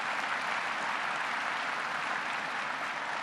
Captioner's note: applause